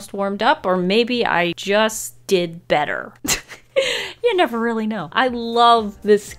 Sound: giggles

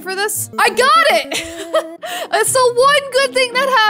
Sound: laughs

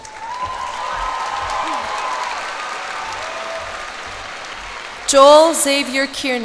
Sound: cheers and applause

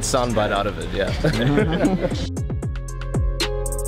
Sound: slow alternative music; laughing

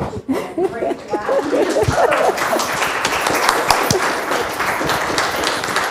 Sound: applause

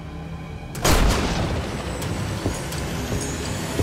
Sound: gun blasting

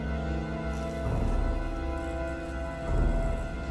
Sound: electrical flicker

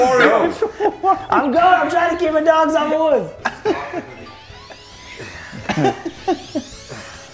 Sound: laugh

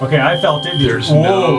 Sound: elevator beeping

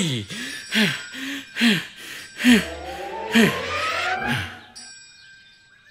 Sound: bell rings

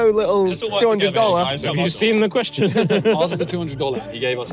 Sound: laughs

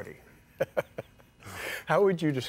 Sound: laughs

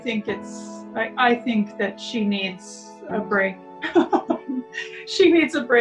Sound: laughs

